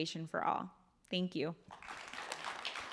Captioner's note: applause